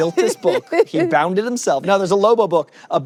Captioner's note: laughs